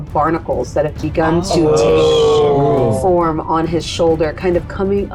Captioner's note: group groans